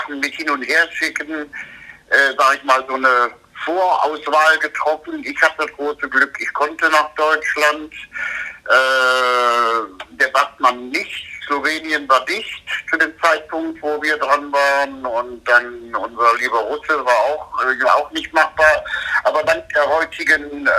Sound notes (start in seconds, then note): 14.8 laughs